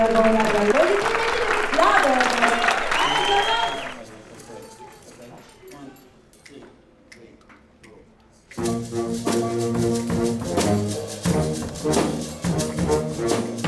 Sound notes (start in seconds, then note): 0.0 applause; 2.3 cheers and applause